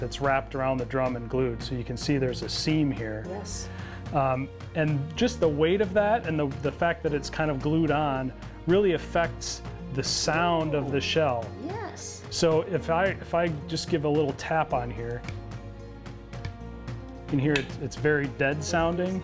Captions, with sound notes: that's wrapped around the drum and glued. So you can see there's a seam here. And just the weight of that and just the fact that it's kind of glued on, really affects the sound of the shell. - Yes! - So if I just give a little tap on here, (taps) you can hear it's very dead-sounding.